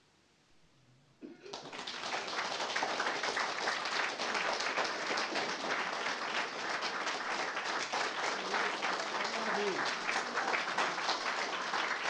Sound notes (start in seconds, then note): 1.4 applause